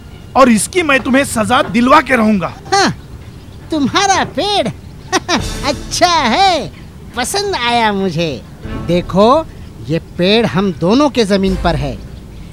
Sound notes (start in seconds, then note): 2.6 scoffs; 5.0 chuckles